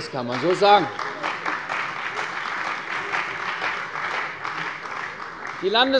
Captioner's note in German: Beifall bei der CDU und dem BÜNDNIS 90/DIE GRÜNEN